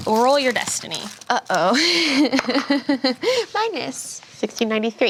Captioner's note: laughs